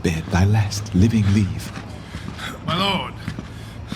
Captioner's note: footsteps approaching